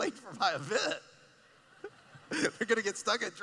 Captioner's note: laughing